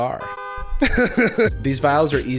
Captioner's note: laughing